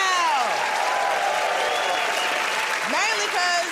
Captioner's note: cheers and applause